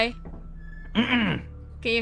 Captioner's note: super-clears up throat